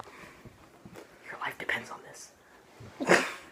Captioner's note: whispers; laughter